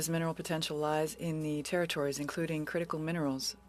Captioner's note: speaking French